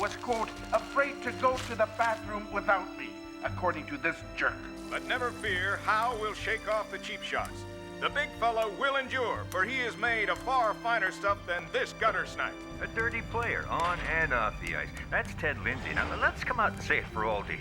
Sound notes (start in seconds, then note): 4.8 radio